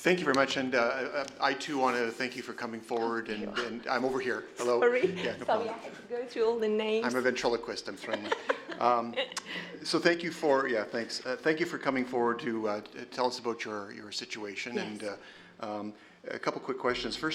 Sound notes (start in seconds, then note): 8.0 laughter